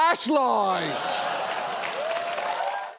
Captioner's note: audience cheers, applauds